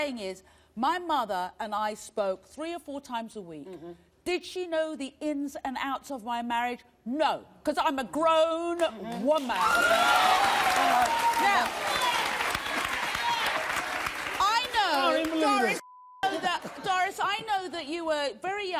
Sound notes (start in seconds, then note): 9.2 audience applauding